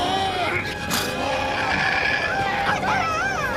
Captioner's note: snorting; squawking